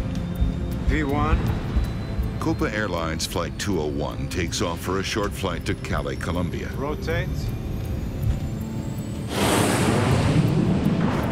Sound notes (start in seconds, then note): 7.5 plane engine whirring